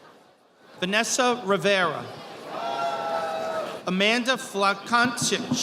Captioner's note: audience applauding